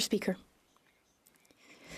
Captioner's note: speaking French